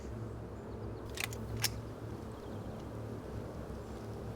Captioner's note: gun clicking